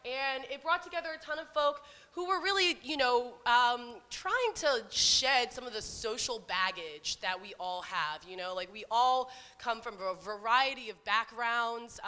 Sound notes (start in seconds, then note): none